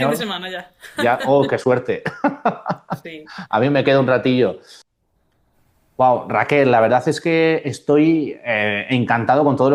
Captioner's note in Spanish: risas